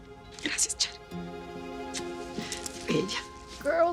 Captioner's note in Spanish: Susurra